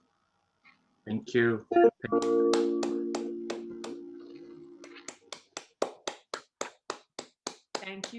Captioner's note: applause